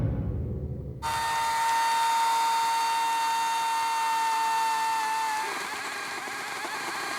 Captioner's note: chainsaw buzzing